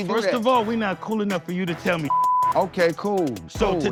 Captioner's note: beep